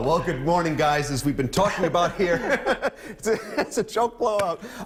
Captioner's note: laughter